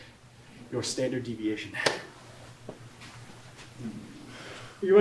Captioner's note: heavily breathing; hand slaps